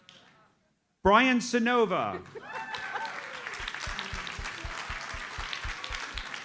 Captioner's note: audience cheers and applauds